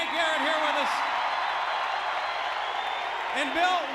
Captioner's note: audience cheers